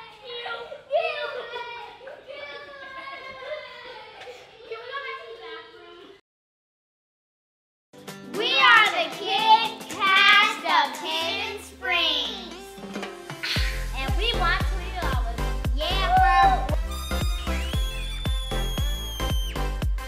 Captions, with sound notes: ew, ew.. Get away... Can we go back to the bathroom? We are the kid cast of Hidden Springs And we won twenty dollars. Yeah bro. (Fog Horn) (Screams)